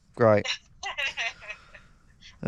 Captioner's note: laughs